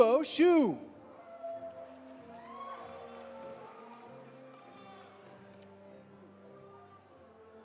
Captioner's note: audience applauding; audience cheering